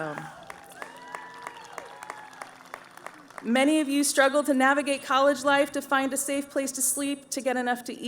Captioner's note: cheering